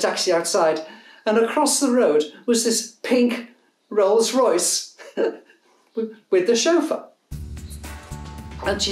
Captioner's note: laughs